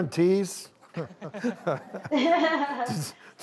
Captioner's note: laughs